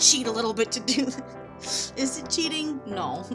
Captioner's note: snickering